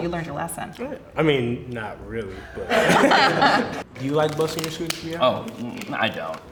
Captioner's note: laughs